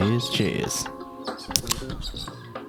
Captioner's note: tasty beverage opening